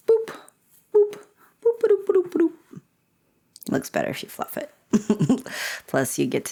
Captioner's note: making sounds while fluffing hair; laughter